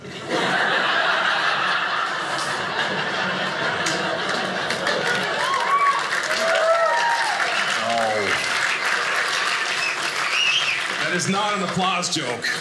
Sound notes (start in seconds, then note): 0.0 audience laughing; 5.9 audience applauding